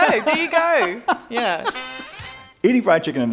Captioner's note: laughter